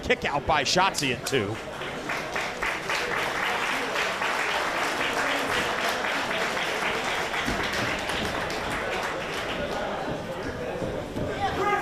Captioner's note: applause